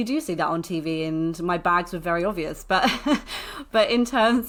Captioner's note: laughs